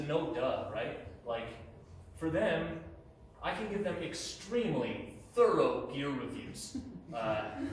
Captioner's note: chuckles